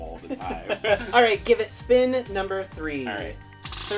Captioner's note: laughs